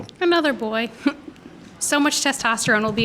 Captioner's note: chuckles